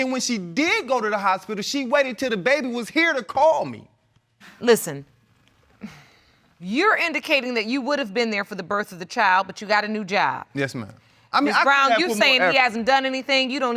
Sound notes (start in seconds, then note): 5.8 sighs